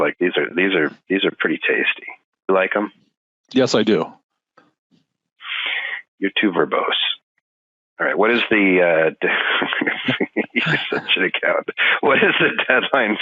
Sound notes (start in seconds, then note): 9.3 laughing